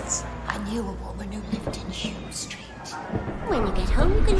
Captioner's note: none